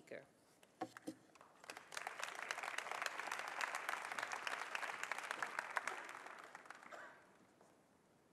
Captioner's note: applause